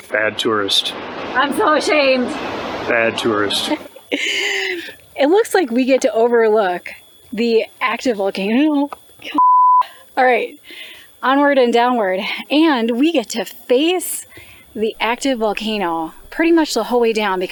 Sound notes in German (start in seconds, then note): 9.3 Piepton